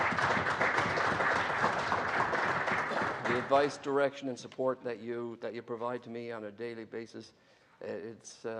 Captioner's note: applause